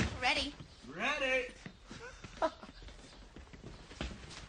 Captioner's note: chuckles